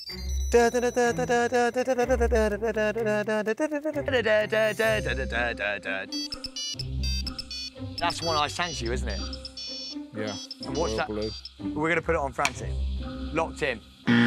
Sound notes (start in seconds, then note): 0.0 frantic ringtone plays; 0.3 hums frantic ringtone; 4.7 frantic ringtone plays